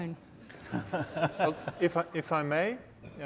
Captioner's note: laughing